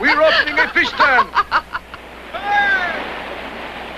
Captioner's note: laughing